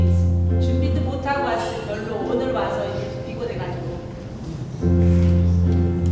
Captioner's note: speaking in foreign language